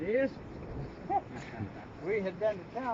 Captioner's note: man laughs